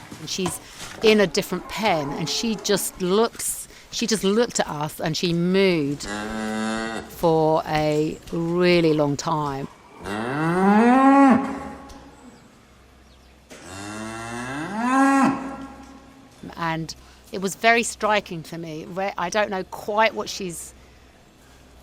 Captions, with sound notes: And she's in a different pen, and she just looks she just looked at us, and she mooed... [Cow mooing] for a really long time. [Cow mooing] And it was very striking for me, I don't know quite what she's